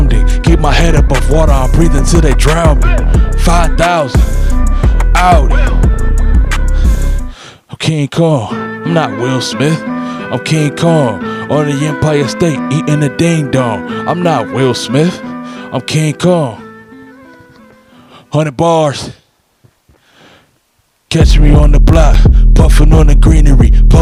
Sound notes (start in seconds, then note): 6.7 slow breath; 19.9 slight breath